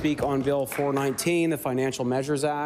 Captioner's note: applause